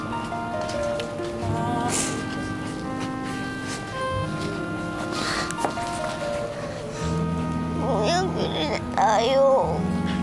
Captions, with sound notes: [Justine sniffling] Big brother, let's buy something?